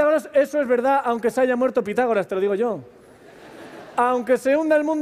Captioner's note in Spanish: Risas